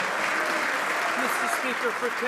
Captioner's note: some Applause